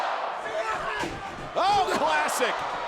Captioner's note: Jimmy yells